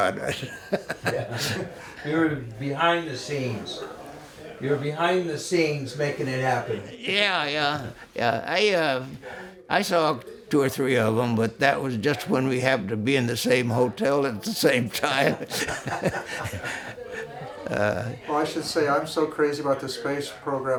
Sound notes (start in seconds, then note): 14.5 laughs